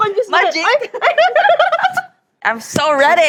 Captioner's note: laughs